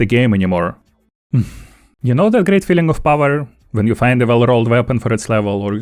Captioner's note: sigh